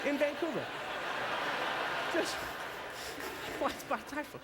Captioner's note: audience laughter